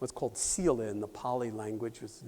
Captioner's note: non-english